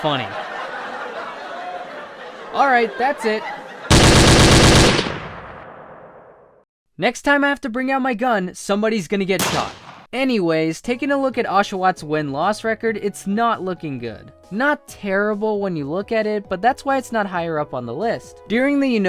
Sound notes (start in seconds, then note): 0.0 sitcom laugh; 0.0 sitcom laughs continue; 5.7 gunshot